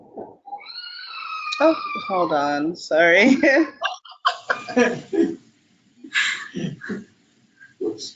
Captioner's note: child crying in the background; participants laughing